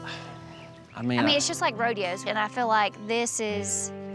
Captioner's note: sighs